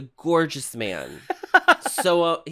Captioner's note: giggles